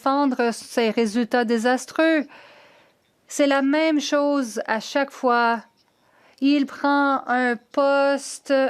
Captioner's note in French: voix de l'interprète